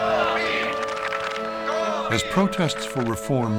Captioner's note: people chanting and clapping hands rhythmically